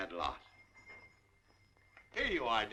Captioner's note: ringing